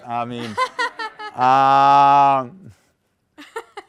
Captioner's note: laughter